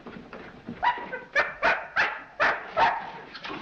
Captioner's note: barking